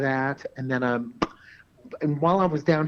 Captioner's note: lips pop